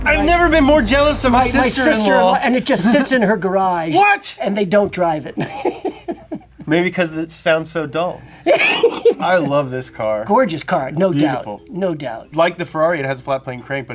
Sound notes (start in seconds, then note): 5.2 laughs; 8.4 laughs